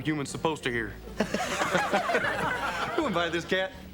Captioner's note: laughing